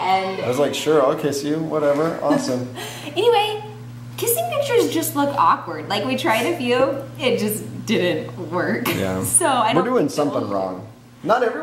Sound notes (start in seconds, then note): 8.6 laughing